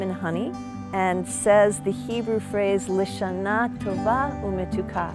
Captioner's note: foreign language